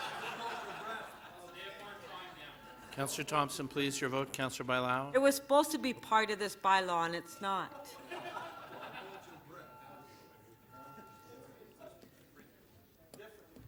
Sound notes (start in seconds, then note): 7.8 laughter